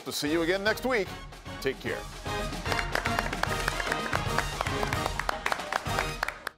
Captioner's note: upbeat music; students applauding